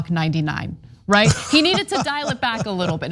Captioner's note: laugh